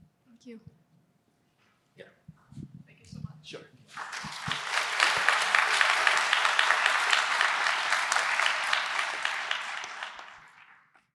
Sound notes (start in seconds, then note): 3.9 applause